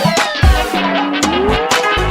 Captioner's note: boing!